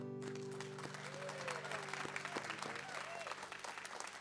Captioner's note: audience applauds